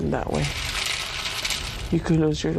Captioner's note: cereals crackling